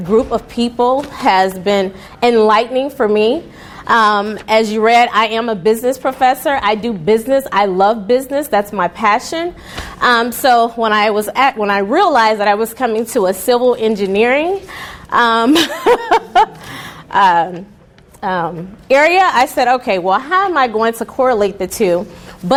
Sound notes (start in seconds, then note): 15.5 chuckles